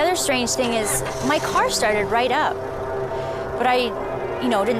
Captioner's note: car engine revving